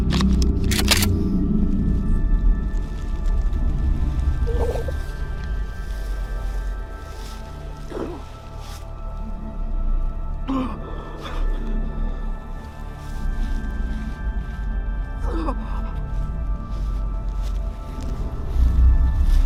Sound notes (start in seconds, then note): 0.1 gun cocks; 7.9 Barry grunting; 11.6 sorrowful music